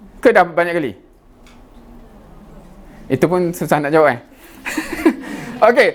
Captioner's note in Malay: ketawa